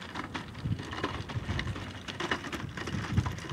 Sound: feet clatter

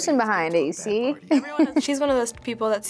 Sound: chuckles

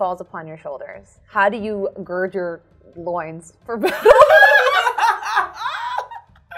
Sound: laughs

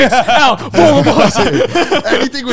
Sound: all laughing

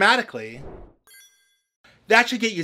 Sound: whoosh

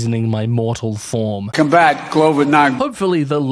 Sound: old president voice

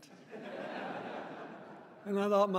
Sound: audience laughing

